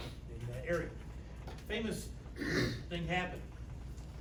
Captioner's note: clears throat